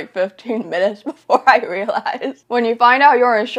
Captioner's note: laughs